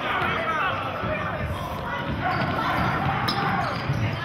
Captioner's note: yelling